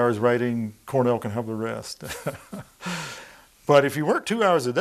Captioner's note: laughing